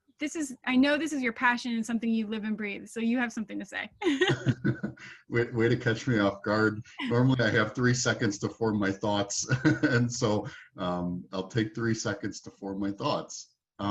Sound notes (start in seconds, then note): 4.0 laughing; 9.7 laughing